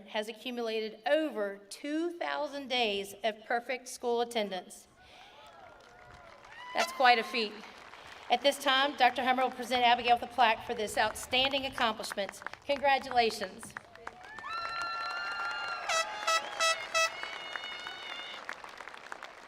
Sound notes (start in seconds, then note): 5.3 attendees applauding; 13.6 attendees applauding